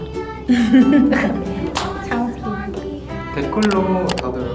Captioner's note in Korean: 웃음